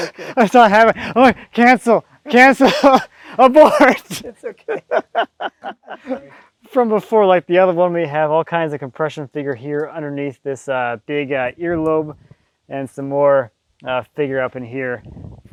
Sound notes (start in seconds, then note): 3.2 laughing